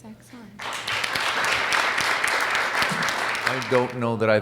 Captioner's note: audience applauds